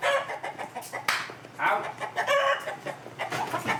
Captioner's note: chicken clucks